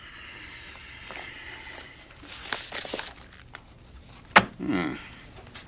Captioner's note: none